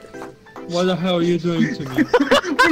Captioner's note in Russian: угнетённо